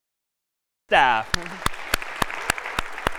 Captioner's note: applause